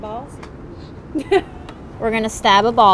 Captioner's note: giggling